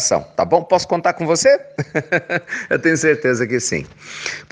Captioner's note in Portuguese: risos